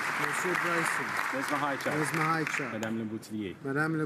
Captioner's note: some Applause